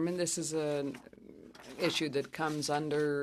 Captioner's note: speaking French